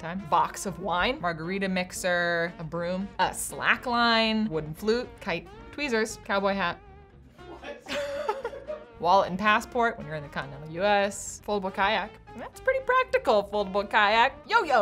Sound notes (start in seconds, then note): 7.4 laughing